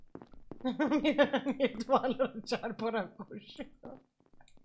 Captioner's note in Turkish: gülerek